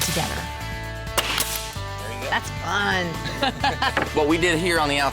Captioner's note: drilling sound